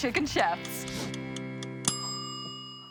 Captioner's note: timer dings